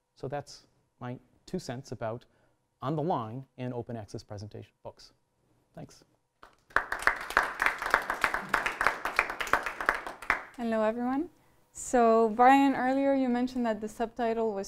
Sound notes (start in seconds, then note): 6.4 applause